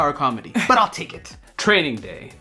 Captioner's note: Sandrine laughs